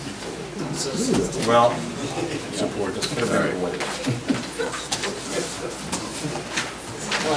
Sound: overlapping chattering

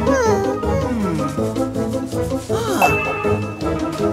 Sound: puzzled sigh

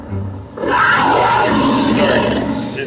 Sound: roar

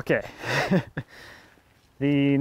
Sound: laughing

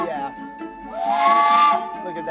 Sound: steam whistle

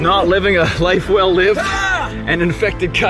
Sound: man shouts

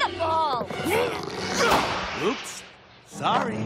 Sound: grunting

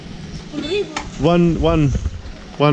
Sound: speaking in foreign language

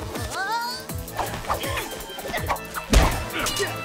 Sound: Chizu grunts

